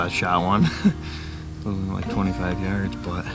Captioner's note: laughs